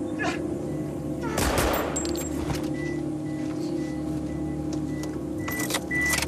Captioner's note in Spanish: Disparos